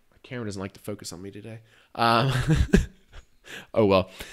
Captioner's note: laughs